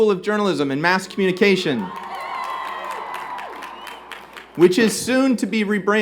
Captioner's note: cheers and Applause